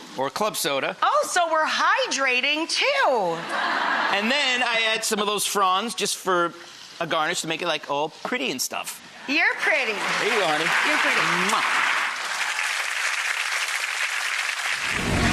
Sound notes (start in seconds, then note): 3.4 audience laughs; 11.0 audience applauds